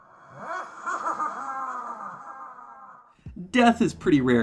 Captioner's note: spooky laughter